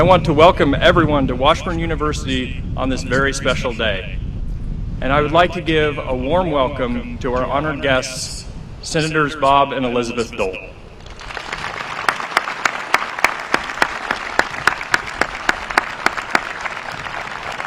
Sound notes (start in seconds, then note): 7.5 applause